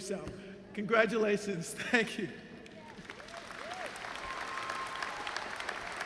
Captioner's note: applause